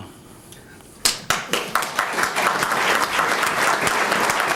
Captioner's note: applause